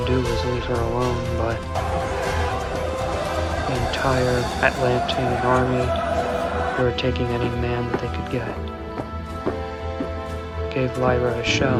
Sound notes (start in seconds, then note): 2.7 people chanting; 9.6 dramatic music